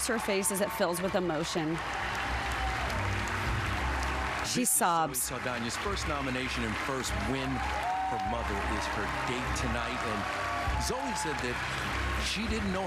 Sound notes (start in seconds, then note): 9.3 applause